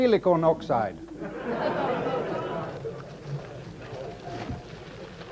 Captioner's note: audience laughing